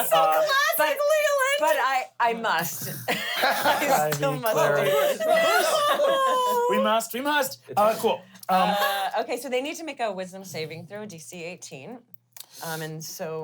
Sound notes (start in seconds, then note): 0.0 squeals; 2.9 laugh